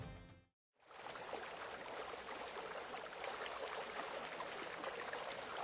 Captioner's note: water rushing in background